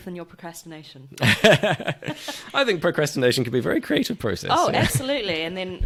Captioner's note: laughs